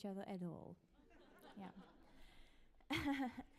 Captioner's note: audience laughs